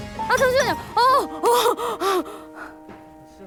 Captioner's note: panicking